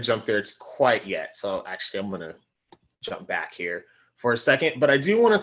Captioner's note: clicking